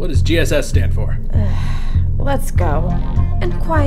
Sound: sigh

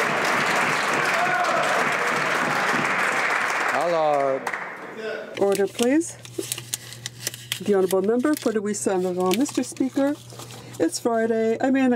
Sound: some Applause

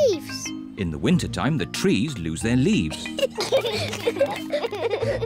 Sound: both giggle

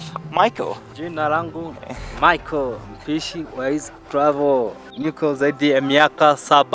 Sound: speaks in foreign language

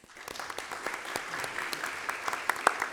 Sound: applause

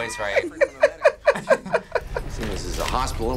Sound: both laugh

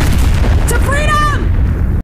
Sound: yelling

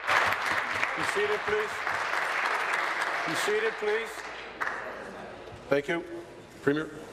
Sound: applause

